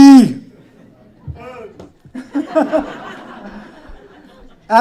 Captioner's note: laughter